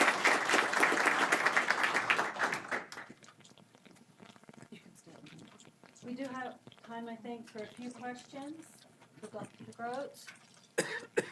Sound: applause

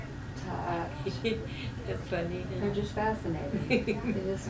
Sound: laughter

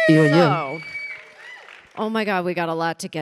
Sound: audience applauding and cheering

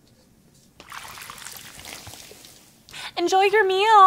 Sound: water splashing

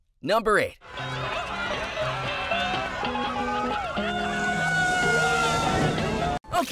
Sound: screaming

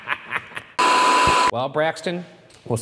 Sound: static buzzing

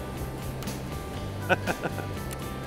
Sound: laughing

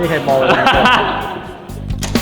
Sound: laughs

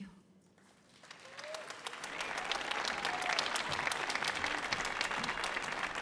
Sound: audience applauding

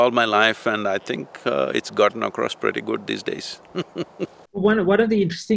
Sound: laughs

